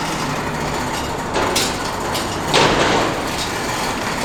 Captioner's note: ambient Traffic